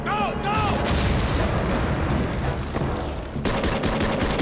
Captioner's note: explosions blasting; guns firing